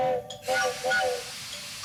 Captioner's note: train horn blowing